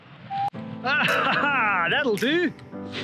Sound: laughs

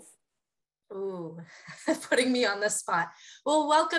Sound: laugh

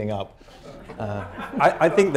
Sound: laughter

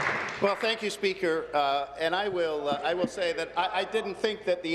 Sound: applause

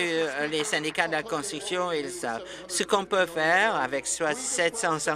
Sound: applause

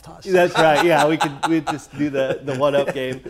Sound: laughing

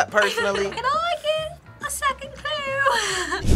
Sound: laughs

